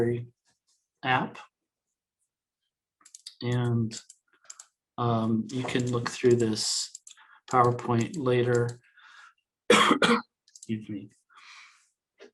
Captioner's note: coughs